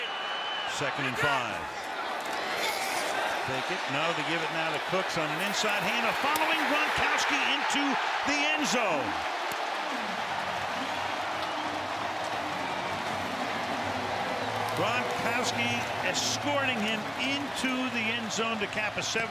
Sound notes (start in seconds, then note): 9.6 cheering